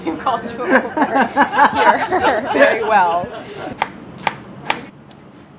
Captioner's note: group laughing